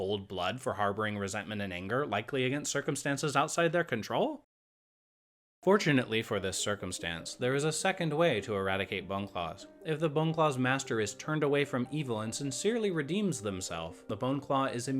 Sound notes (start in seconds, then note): 5.0 silence